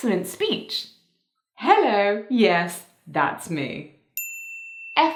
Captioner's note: bell sfx